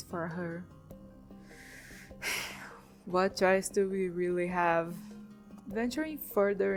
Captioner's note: sigh